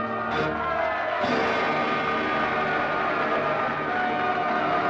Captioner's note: applause and cheering